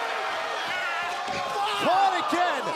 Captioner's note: crowd chatter